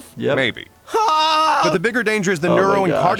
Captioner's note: Archer screaming